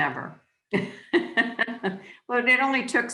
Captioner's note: laughing